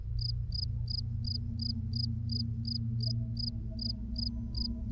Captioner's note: cricket chirp continues